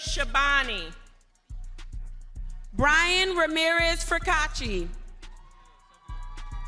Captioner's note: lively music continues; crowd cheering